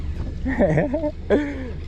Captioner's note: laughing